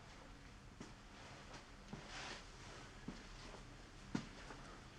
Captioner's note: footsteps thudding